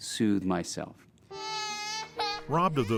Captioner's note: girl Crying